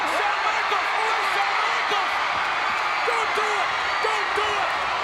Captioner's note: crowd cheering; people chattering indistinctly